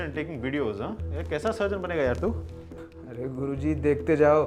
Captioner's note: sarcastically